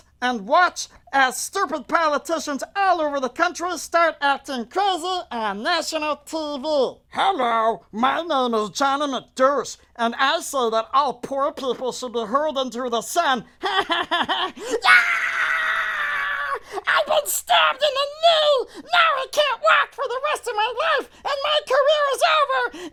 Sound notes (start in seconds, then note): 14.6 screams